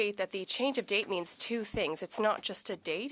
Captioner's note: speaking French